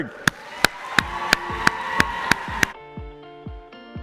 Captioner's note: applause; fast-forwarded, upbeat pop music